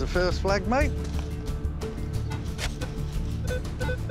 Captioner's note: beeping